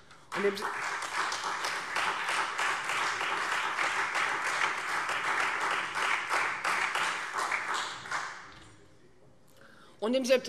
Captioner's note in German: Beifall Freie Demokraten und SPD